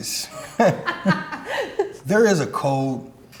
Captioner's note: laughs